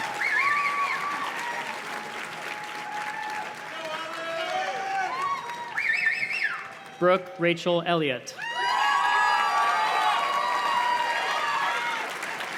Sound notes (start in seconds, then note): 5.6 graduates whistle; 8.4 audience cheers and claps